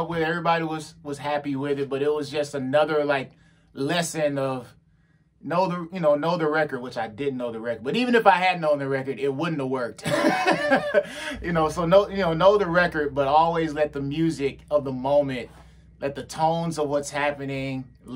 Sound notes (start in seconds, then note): 10.0 laughs